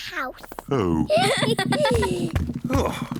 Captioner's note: all giggle